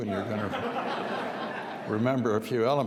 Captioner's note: audience laughs